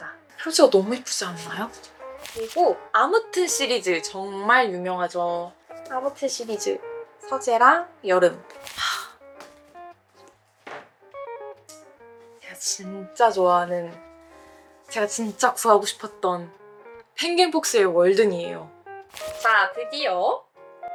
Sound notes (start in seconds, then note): 8.8 sigh; 10.6 speechless